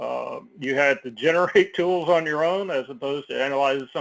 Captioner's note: laugh